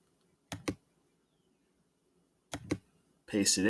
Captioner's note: mouse and Keyboard clicking